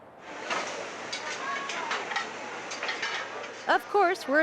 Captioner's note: utensils clacking